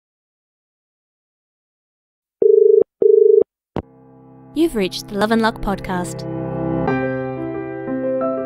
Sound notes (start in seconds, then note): 3.0 dial tone